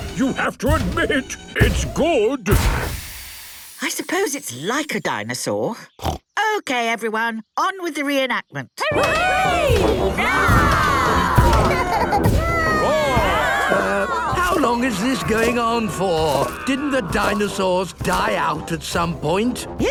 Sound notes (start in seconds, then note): 5.9 snorts; 10.0 cheering; 11.2 roarings, giggling